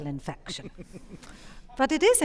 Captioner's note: audience chuckling